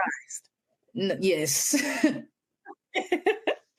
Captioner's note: laughter